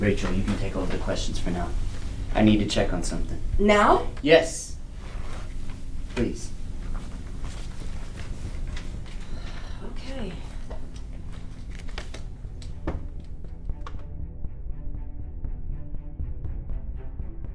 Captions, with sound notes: Rachel, you can take over the questions for now. I need to check on something. - Now? - Yes! Please. - (sighs) OK. (intense dramatic music)